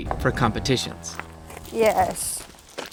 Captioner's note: cow lowing